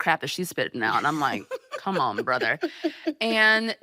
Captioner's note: laughing